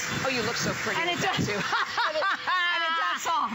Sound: laughter

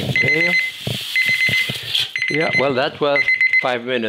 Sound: timer beeping

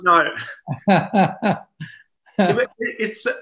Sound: laughs

